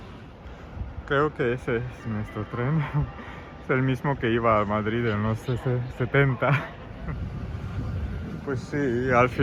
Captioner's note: train